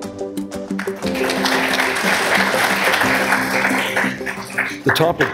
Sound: applause

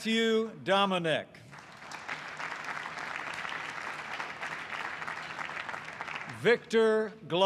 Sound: applause

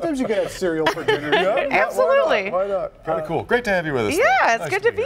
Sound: laughter

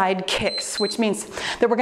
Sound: timer beeps

